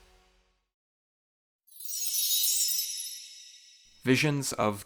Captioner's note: chime